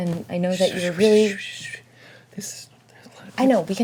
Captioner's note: shushing